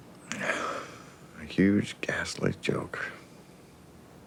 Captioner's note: exhales